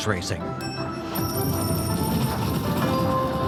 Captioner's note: upbeat music; coins clattering; slot machine dinging